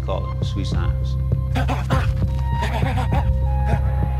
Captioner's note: grunting